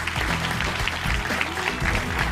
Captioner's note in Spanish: aplausos